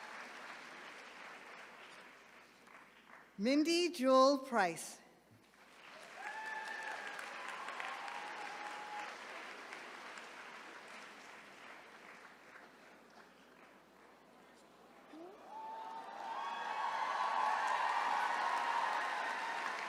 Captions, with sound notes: Mindy Jewell Price. (attendees cheering)